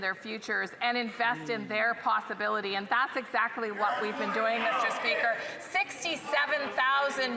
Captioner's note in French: voix de l'interprète